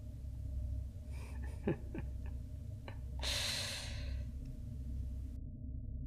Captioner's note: chuckle